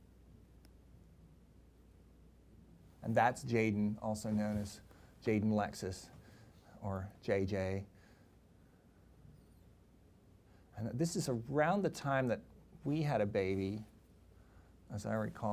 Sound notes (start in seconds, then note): none